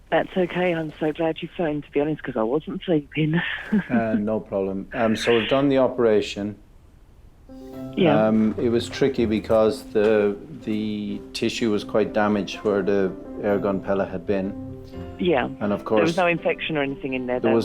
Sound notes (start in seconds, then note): 3.6 chuckles